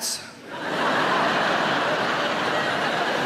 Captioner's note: laughing